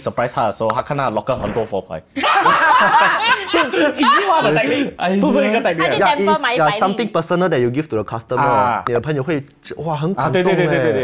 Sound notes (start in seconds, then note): 2.2 laughs